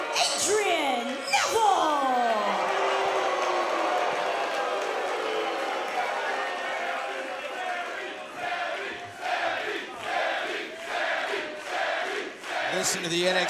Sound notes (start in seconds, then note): 3.2 crowd cheering; 7.9 crowd chatter